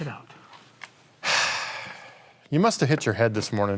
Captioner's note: sighs